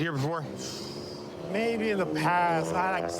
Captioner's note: exhales sharply